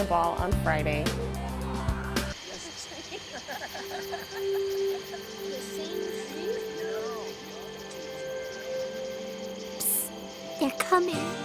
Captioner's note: nature sounds